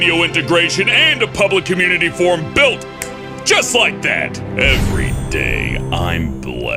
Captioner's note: snaps fingers